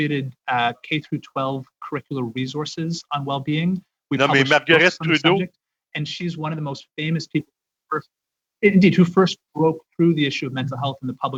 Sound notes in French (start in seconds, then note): 3.1 voix de l'interprète